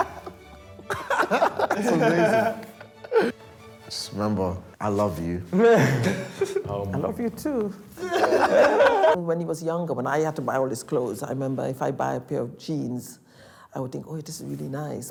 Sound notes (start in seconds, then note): 0.0 laughs; 5.7 group laughs